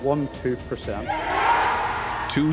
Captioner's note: people cheering